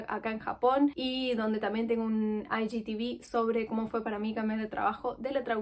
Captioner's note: in Spanish